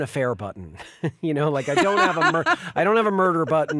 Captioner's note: chuckles; laughs